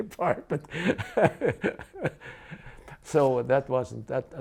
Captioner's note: laughs